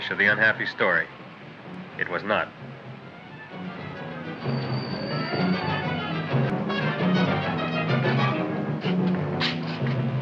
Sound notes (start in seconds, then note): 2.8 traffic droning